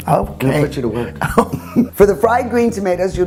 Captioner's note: laughing